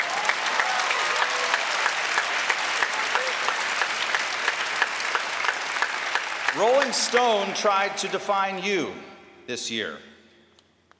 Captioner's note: applause